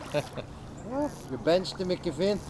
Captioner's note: laughs